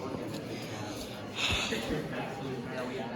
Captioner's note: exhales